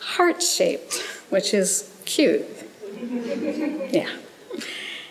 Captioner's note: audience chuckles